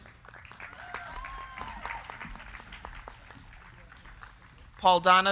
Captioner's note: crowd clapping; crowd cheering